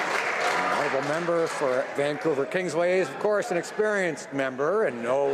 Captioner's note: some Applause